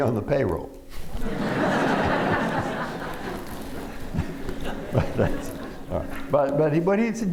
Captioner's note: laughter